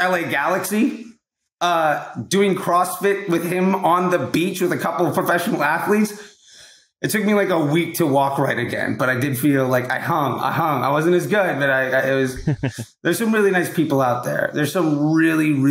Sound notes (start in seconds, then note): 12.3 laughs